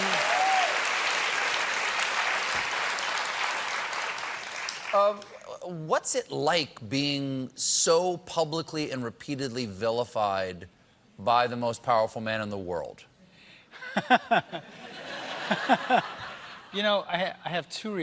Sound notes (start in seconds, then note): 0.0 cheers and applause; 13.7 laughter